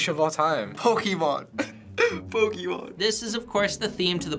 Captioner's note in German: kichert